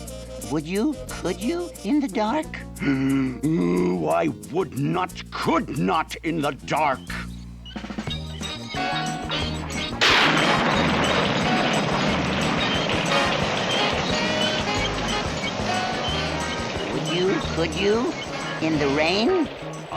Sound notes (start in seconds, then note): 9.8 thunder crashing